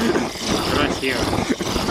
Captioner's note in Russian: звук горелки